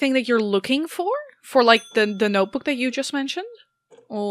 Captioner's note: bell dings